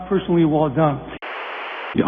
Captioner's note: static